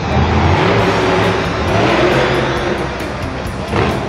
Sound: truck engine revs

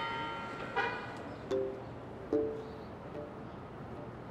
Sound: car hoots

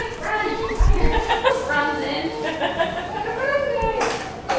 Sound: laughing

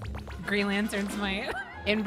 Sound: laugh

